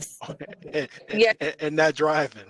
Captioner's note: laughs